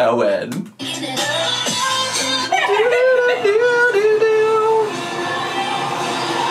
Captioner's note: upbeat music; humming